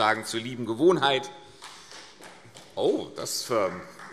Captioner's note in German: Beifall